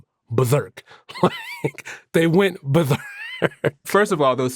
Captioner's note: laughs